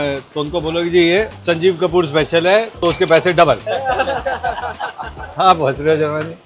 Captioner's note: laughs